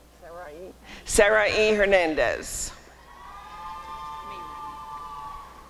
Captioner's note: applause and cheering